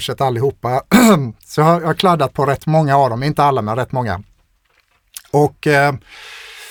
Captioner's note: clears throat